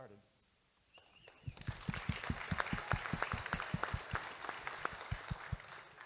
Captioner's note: audience Applauding